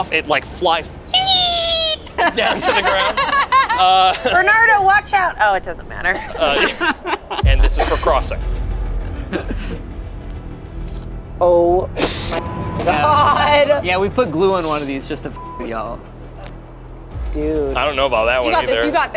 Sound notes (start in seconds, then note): 1.1 squeals; 3.0 everyone laughs; 8.9 dramatic music; 12.4 beep; 15.4 beep